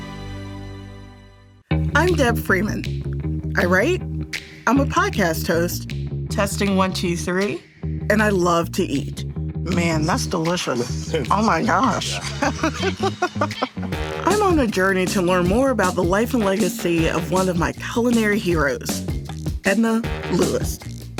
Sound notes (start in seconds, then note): 10.8 laughter